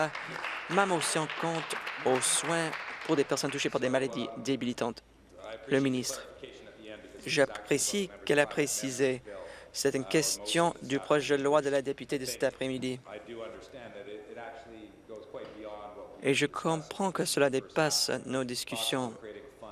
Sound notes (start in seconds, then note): 3.2 applause